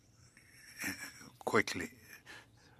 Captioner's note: speaking French